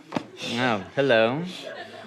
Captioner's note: breathing heavily